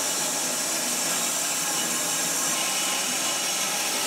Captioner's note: saw whirring